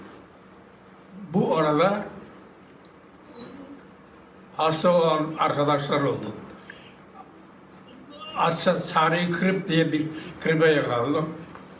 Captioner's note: foreign language